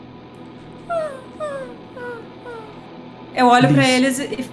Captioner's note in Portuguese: cantos de urutau